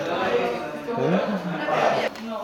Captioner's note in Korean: 맛있어서 좋을 때 나는 콧소리